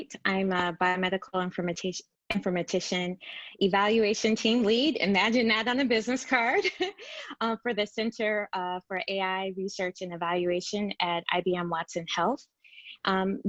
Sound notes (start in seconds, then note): 6.9 laughs